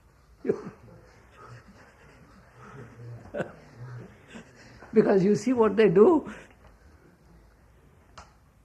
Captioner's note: laughs